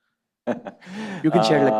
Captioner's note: laughs